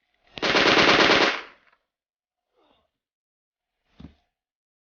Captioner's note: gunfire rattling